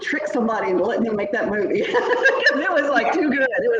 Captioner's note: laughing